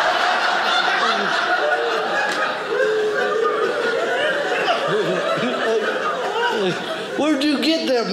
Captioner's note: audience laughing